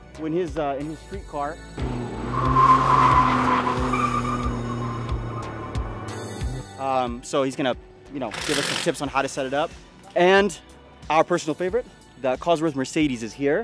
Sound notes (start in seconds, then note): 1.8 car tires screeching